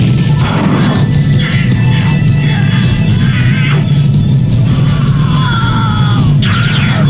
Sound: sounds of increasing pain

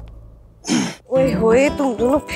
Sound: Guri clears throat

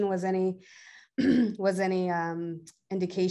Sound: clears throat

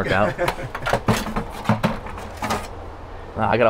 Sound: laughs

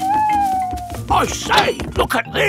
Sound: owl hooting

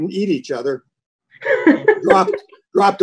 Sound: laughing

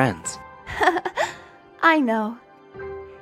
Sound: chuckle

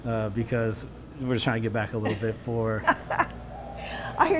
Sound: laughter

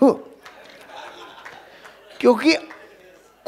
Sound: rounds of applause

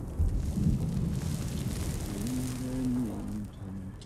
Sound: Dao chanting in Vietnamese; ground rumbling; Dao chanting in Vietnamese

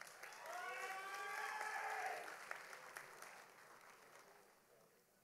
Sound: audience applauding

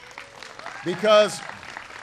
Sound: applause

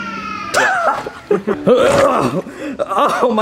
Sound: film crew laughing; Mario groans

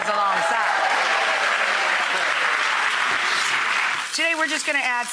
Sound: audience applauding

